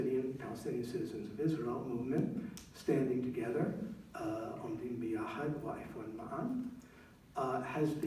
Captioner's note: non-english speech